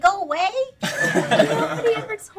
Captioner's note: laughing